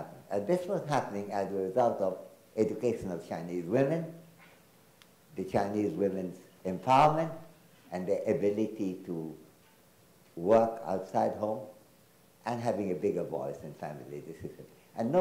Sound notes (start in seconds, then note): none